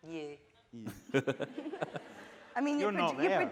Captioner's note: laughing